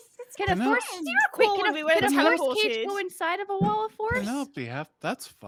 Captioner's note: players chattering